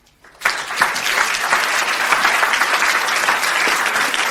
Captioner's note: audience applauds